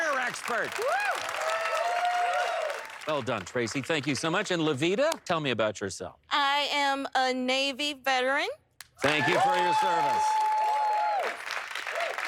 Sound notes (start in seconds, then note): 0.0 cheers and applause